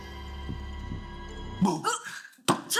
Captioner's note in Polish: krzyk